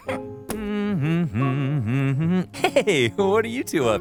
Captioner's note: giggles; hums